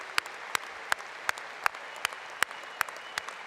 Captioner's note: applause